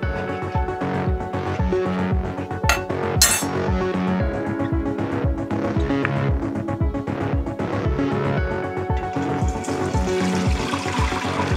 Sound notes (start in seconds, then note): 3.2 ladle tinkling; 8.6 liquid burbling